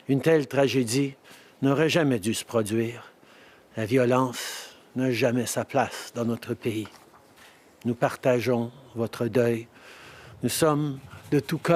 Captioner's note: speaking French